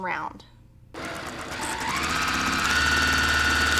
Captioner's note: sewing